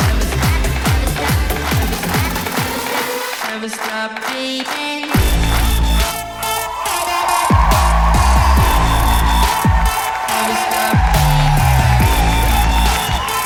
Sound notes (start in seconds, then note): 5.1 audience cheering